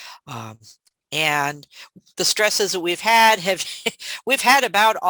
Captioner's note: chuckles